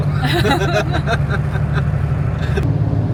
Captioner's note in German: beide lachen